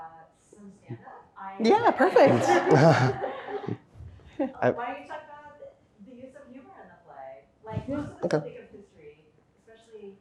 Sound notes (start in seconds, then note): 1.8 audience laughs